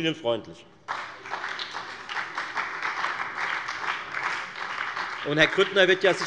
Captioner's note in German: Beifall bei der FDP und bei Abgeordneten der SPD